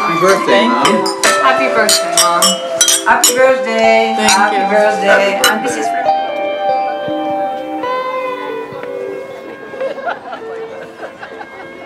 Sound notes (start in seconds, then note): 1.8 glasses clinking; 5.4 gentle electric guitar music; 8.9 street crowd chatting, laughing